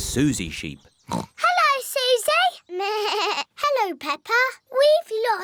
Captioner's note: oinks; bleats